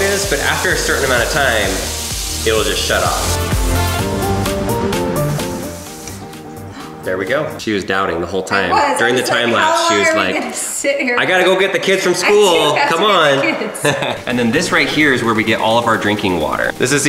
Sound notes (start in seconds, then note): 6.5 gasping; 13.6 laughs